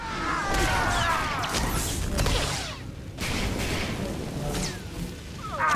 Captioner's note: grunting